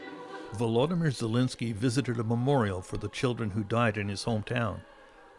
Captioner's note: speaking alternate language